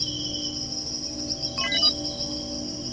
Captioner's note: electronic beep